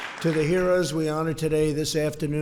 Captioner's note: applause